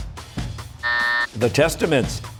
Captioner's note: buzzer